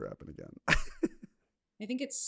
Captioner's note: laughs